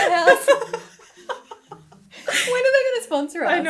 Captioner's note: laughing